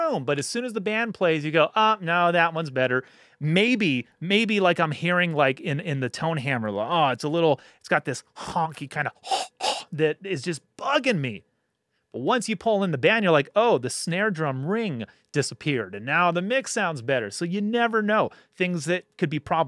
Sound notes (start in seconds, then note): 9.1 imitates drumming